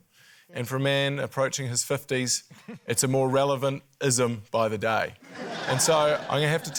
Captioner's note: laughter